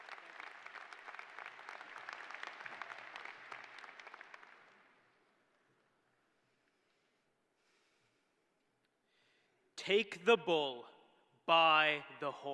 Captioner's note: applause